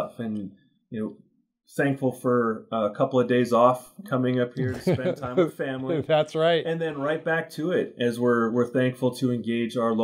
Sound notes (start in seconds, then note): 4.6 laughs